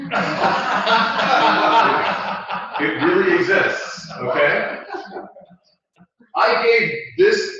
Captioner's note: laugh